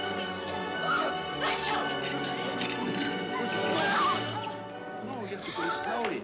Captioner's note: Rottenmeier sneezing